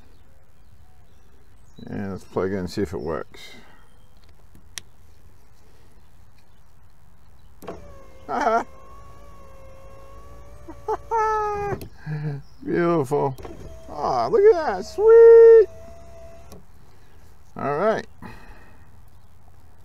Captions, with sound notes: and lets plug it in and see if it works (laughing with excitement) (laughing) beautiful ah look at that sweet! alright